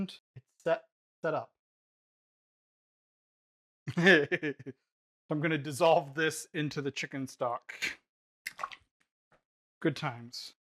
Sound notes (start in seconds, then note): 3.9 giggling